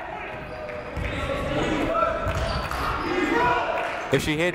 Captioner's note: people chanting in the crowd